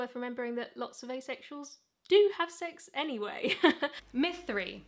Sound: chuckles

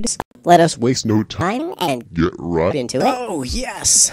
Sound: wobbly voice

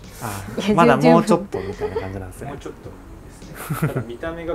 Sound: laughter

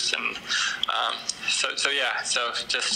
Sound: none

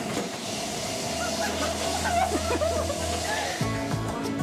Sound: loud whimpering

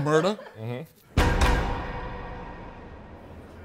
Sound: bars clink

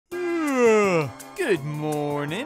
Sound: yawning

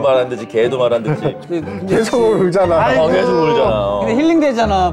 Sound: crying

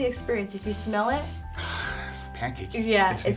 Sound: sniffing

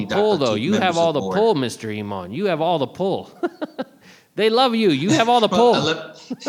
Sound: chuckles

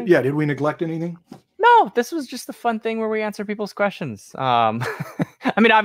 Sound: laughs

